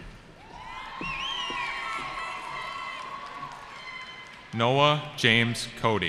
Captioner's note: cheering